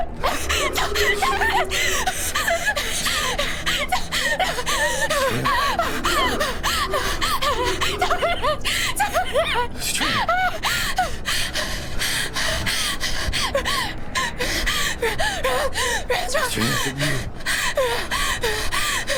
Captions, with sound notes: [panting] Ti—Titus! Titus! Astraea? [panting, crying] Titus! Titus... Astraea...